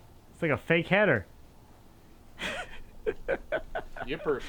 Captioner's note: laughs